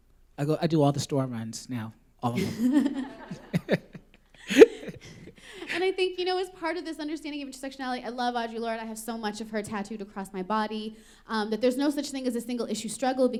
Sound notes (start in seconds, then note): 2.3 laughter